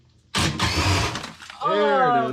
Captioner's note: drill whirring